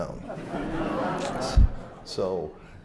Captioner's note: laughter